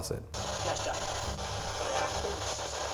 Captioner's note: static